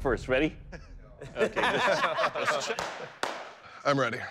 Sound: laughter

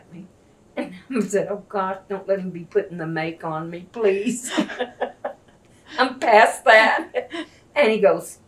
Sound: laughter

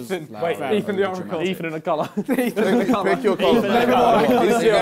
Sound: crowd mumbling

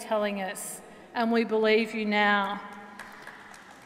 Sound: applause

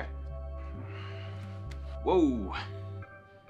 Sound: sighs

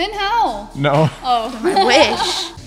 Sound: laughs

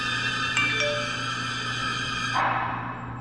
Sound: text alert

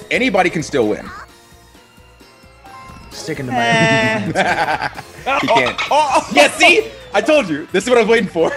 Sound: laugh

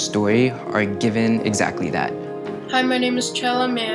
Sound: higher voice

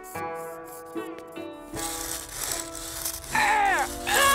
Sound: scratching; groaning

